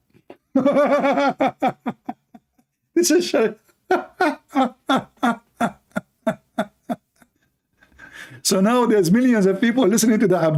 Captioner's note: Ketawa